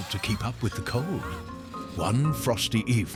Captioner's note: chimney huffing